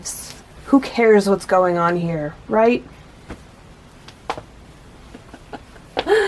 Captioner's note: silent laughter